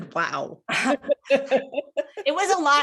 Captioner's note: laughing